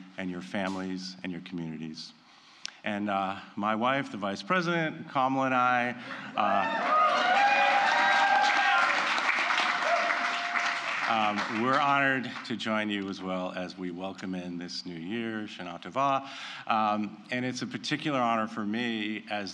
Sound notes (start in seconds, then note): 6.8 applause